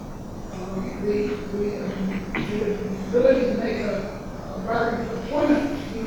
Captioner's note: rustling drowns out speaker